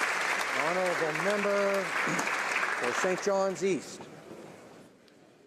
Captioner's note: applause